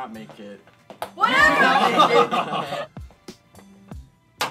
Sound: laughter

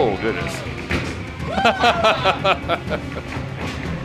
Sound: laughing

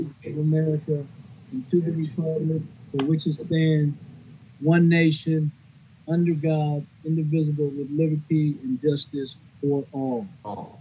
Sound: reciting the pledge of allegiance

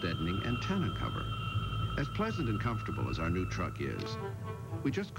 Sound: whistling sound gradually stops

